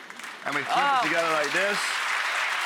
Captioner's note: audience applauding